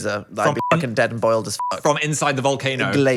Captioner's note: beep